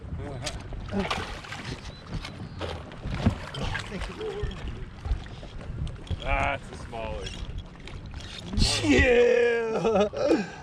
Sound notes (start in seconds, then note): 4.9 fish splashing